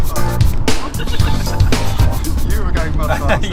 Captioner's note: laughing